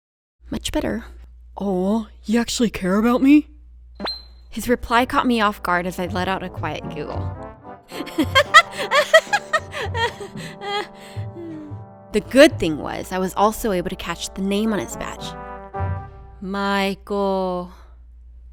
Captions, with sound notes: Much better! "Oh, you actually care about me?" His reply caught me off guard as I let out a quiet giggle. [LONG GIGGLE] The good thing was, I was also able to catch the name on his badge: Michael.